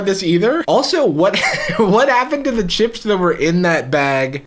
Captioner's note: laughs